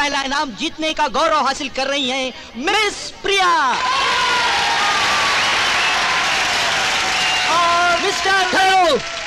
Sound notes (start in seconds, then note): 3.7 all Cheering